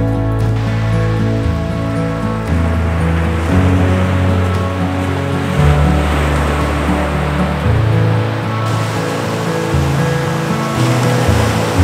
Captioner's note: sound of waves in the background